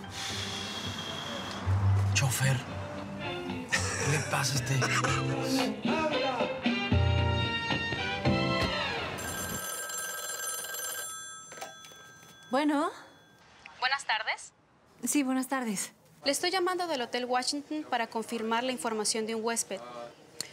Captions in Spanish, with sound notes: EXHALA >> CHOFER. [RISAS] ¿QUÉ LE PASA A ESTE IDIOTA? [SUENA EL TELÉFONO] >> ¿BUENO? >> BUENAS TARDES. >> ¿SÍ? BUENAS TARDES. >> BUENAS TARDES. >> ¿SÍ? BUENAS TARDES. >> LE ESTOY LLAMANDO DEL HOTEL >> ¿SÍ? BUENAS TARDES. >> LE ESTOY LLAMANDO DEL HOTEL WASHINGTON PARA CONFIRMAR >> LE ESTOY LLAMANDO DEL HOTEL WASHINGTON PARA CONFIRMAR LA INFORMACIÓN DE UN HUÉSPED,